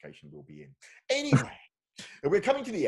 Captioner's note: laughs